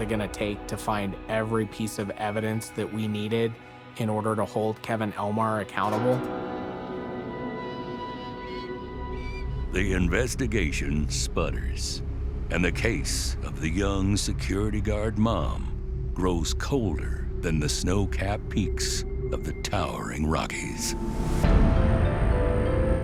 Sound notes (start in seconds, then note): 6.2 tense music; 7.1 bird calling; 21.0 mysterious music